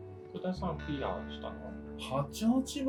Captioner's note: chatting in a bar